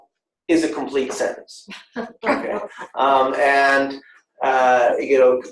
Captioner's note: laughter